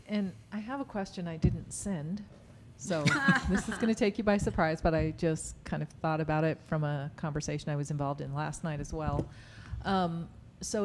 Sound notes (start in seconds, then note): 3.0 laughter